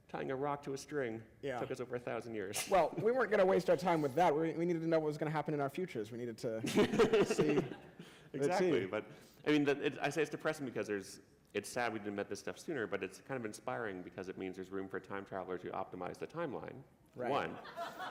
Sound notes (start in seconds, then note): 6.6 laughter